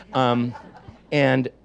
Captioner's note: audience laughs